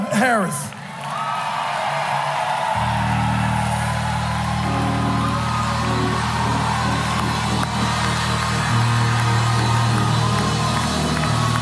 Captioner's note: applause